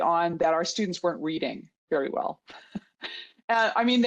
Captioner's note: chuckles